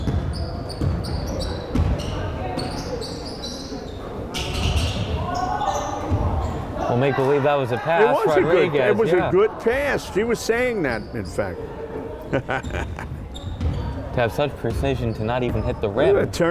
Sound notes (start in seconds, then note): 0.9 crowd chattering; 12.2 chuckles